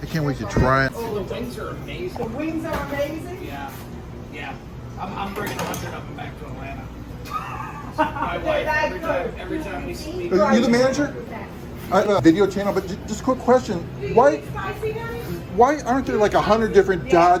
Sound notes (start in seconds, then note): 7.2 patron laughs